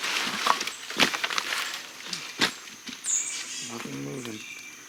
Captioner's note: stomping twice